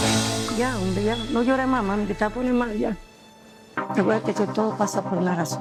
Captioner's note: speaking Spanish; tense music